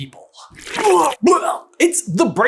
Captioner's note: bllllllurgh